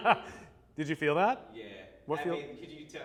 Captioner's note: laughs